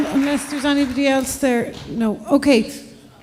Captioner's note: applause